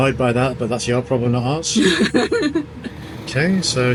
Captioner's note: laughs